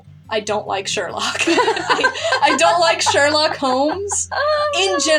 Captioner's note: both Laugh